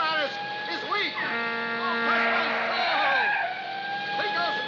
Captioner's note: horn blaring